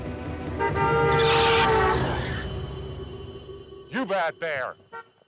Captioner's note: beeping; horn honking; tyres screeching